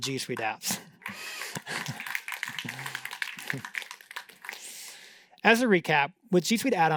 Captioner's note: applause